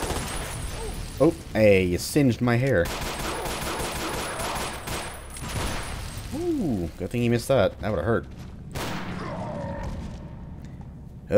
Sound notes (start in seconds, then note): 2.8 Glock rampage